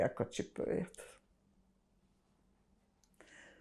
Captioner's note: pauses 6 seconds